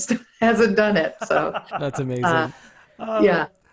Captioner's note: laughing